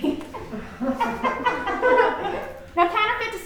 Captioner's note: crowd laughing